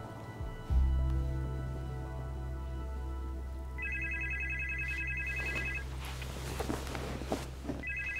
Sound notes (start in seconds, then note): 3.8 phone ringing